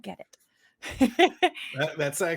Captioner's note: laughs